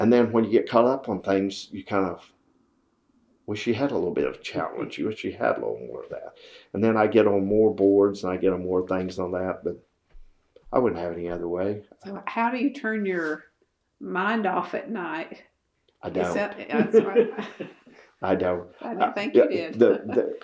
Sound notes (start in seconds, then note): 16.2 laughs